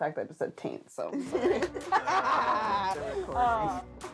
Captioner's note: all laughing